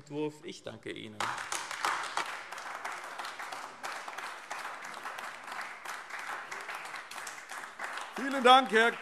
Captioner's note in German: Beifall AfD